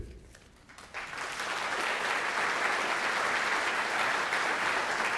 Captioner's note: audience clapping